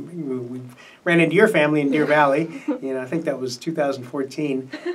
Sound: laughs

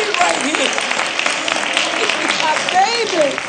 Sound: applause

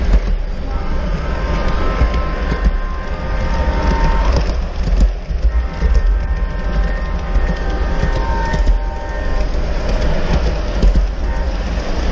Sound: train horn

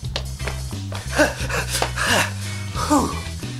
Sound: groaning

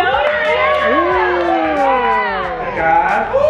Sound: all cheering

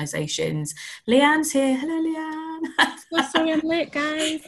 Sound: laughs

